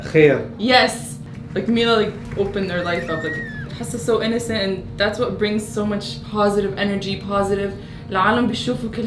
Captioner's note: speaks in English